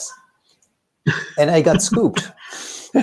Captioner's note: laughs